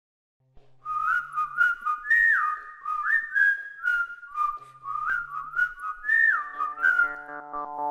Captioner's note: whistling